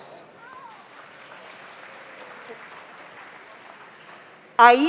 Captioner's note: audience applauds